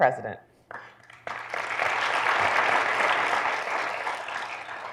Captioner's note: audience clapping